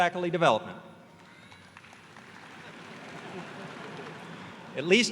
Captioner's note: applause